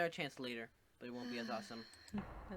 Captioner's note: sighs